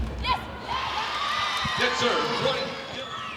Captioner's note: ball thumping; audience cheering